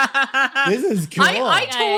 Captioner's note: laughing